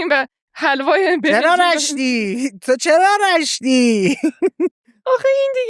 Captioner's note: laughs; laughs